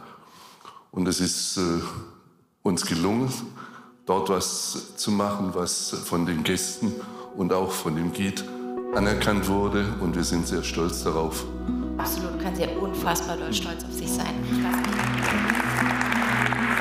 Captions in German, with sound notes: Und es ist uns gelungen, dort was zu machen, was von den Gästen und auch von dem Guide anerkannt wurde. Und wir sind sehr stolz darauf. Absolut, können Sie unfassbar stolz auf sich sein. (Applaus)